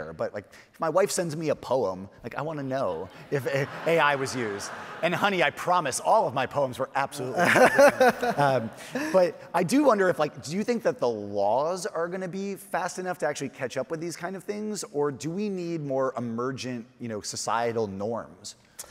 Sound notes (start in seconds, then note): 2.8 audience laughing; 7.2 all laughing